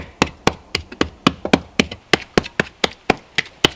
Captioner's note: tapping